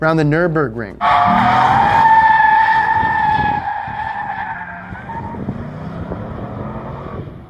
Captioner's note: tires screech; engine revs